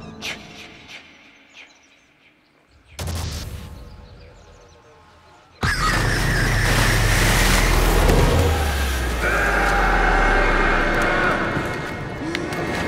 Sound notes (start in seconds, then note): 5.7 distorted feedback screech reverberates; 9.1 screaming